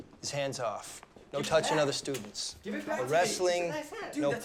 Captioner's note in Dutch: ruziënde jongens